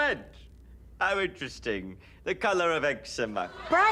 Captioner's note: audience laughs